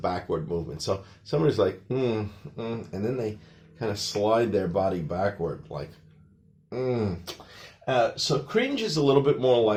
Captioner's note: cringing noises